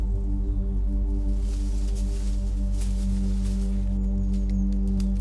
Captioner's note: undergrowth crackles